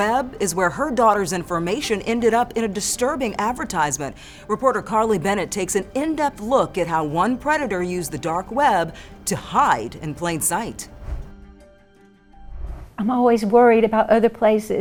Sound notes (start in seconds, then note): 10.9 transition whooshes; 11.0 suspenseful music